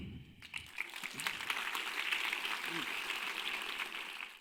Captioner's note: crowd applauding